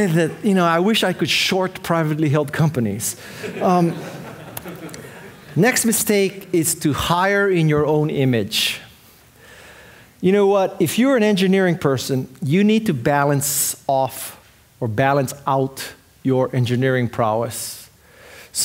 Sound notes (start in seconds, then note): 3.3 audience laughing